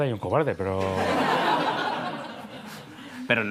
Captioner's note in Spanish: Risas